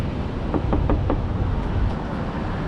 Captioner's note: tap tap tap